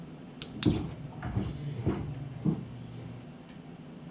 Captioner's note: footsteps above; device clicks